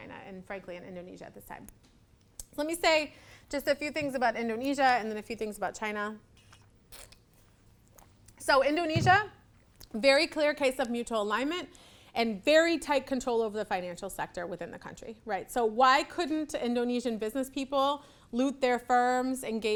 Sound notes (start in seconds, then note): 6.9 slurps